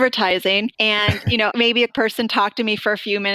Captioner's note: laughter